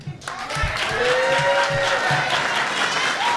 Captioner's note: cheers and applause